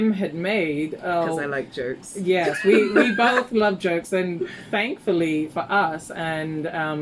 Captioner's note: laughs